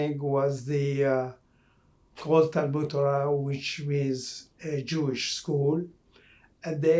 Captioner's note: non-english